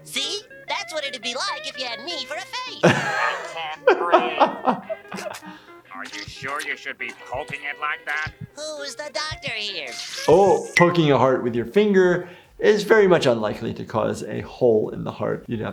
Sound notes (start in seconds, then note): 4.1 laughs; 4.8 dramatic music playing; 9.9 blood gushing